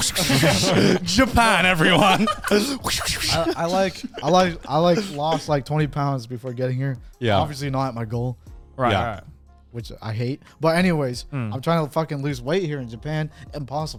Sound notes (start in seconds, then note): 2.7 vocalizes swishing